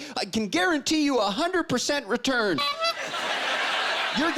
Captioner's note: honking